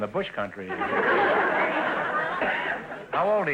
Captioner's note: audience laughter